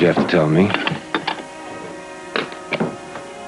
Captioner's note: receiver clicking; door closing